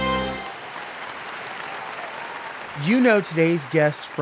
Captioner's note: canned applause